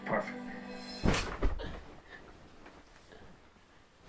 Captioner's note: loud crash